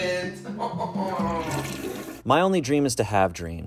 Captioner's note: sobbing